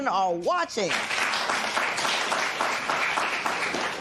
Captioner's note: applause